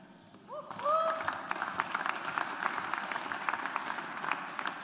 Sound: audience applauds

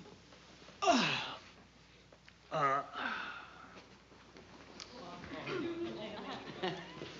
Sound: exhales loudly

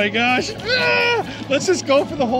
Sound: screams

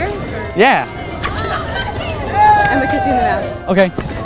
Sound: loud shouting in background

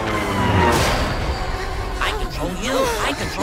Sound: loud bang

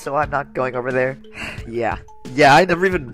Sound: sigh

